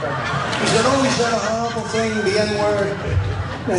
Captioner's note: laugh